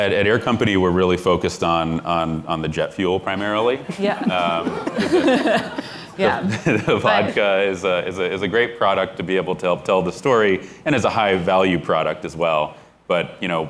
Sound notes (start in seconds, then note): 3.8 laughter